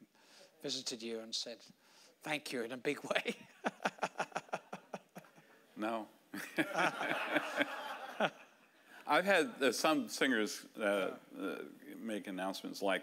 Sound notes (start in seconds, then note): 3.5 laughing; 6.4 audience laughing